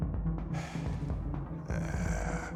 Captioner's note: sigh